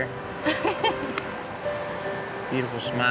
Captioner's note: chuckling